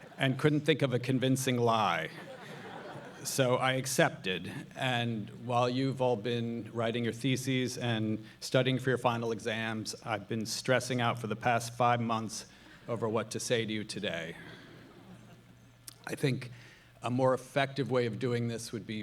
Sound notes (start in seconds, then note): 1.9 audience laughs